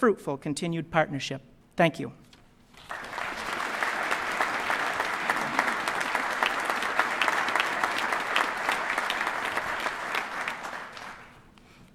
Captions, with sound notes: AND HOPES FOR A LONG AND FRUITFUL CONTINUED PARTNERSHIP. THANK YOU. [APPLAUSE].